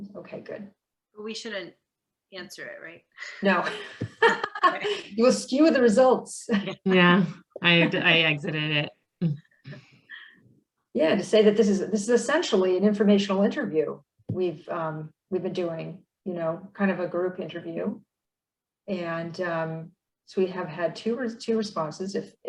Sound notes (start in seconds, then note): 6.5 chuckles